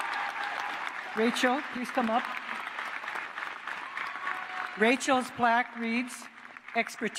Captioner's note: cheers and applause